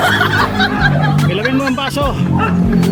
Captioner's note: laugh